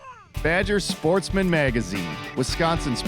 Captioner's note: voiceover